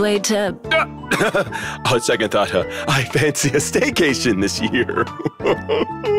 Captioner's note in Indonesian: Ehem